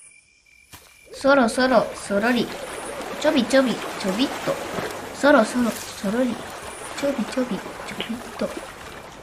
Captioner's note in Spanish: sonido de caminar despacito